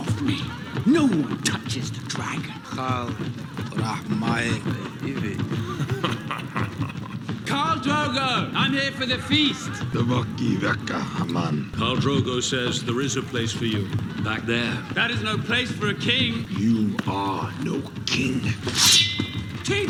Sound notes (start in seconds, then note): 5.5 speaks Dothraki; 9.5 speaks Dothraki